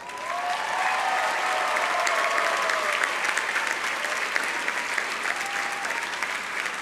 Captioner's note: audience cheering; audience applauding